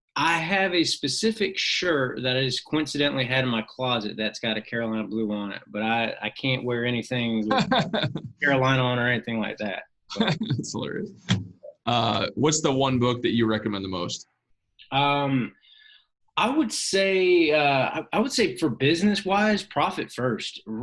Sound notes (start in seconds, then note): 7.2 laughs; 10.1 laughs